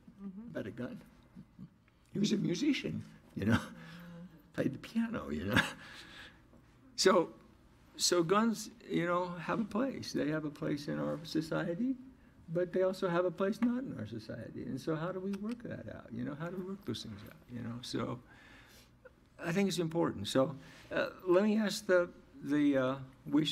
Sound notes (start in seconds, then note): 6.9 laughs